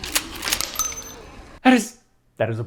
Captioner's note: shells drop